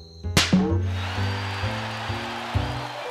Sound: applause

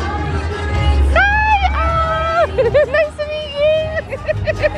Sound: laughing

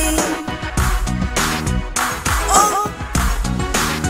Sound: clap

